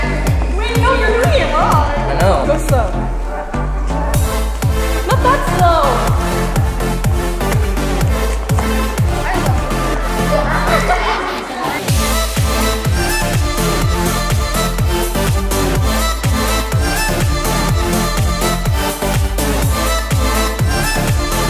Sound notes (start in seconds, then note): 6.1 upbeat dance music continues; 10.6 laughing; 11.9 upbeat dance music continues